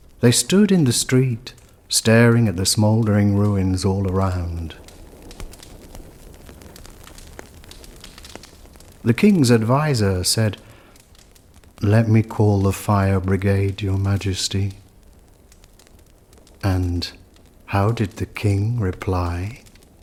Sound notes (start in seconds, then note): 8.9 the sound of crackling flames